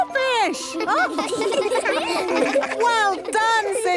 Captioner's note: children laughing